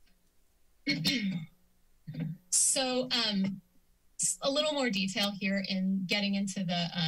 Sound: clears throat

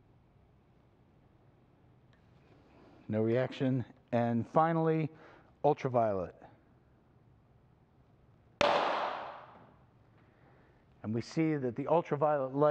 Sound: bang!

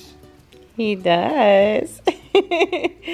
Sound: laughs

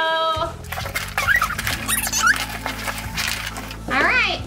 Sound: audio squeaking

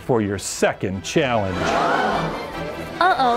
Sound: audience gasping

